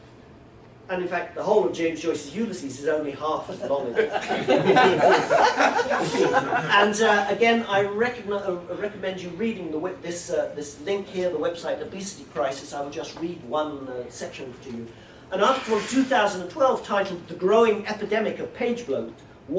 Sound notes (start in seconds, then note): 3.5 laughter